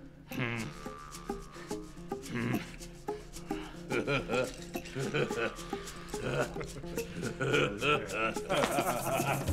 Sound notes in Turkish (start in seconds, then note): 3.5 Gülme sesi